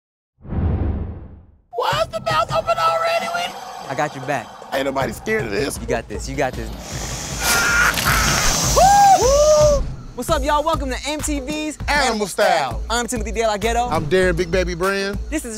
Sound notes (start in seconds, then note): 6.6 alligator hisses; 7.4 both exclaim